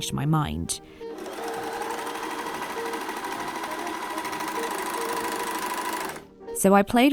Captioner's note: overlocker whirs noisily